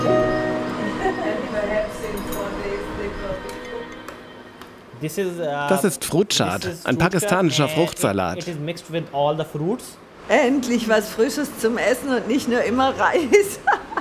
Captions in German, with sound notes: (Gespräch, Lachen) (englisch:) Das ist Fruit Chaat, ein pakistanischer Fruchtsalat. Endlich was Frisches zum Essen und nicht nur immer Reis.